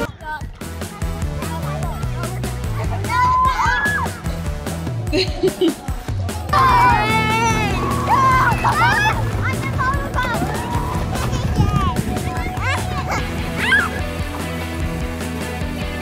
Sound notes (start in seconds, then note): 0.0 kids shouting; 0.0 upbeat rock music; 5.1 woman chuckles; 6.5 kids screaming; 7.5 water splashing